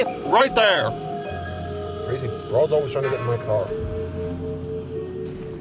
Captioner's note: mutters